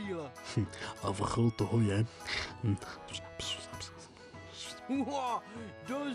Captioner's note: whisper whisper